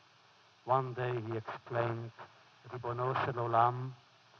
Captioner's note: foreign language